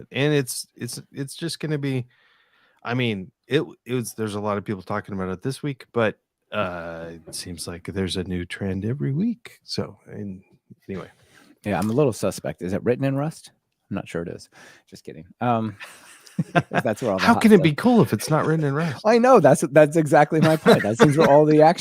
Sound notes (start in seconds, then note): 15.7 laughing